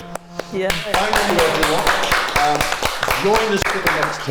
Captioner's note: applause